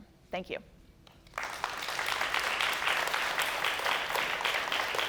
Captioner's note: applause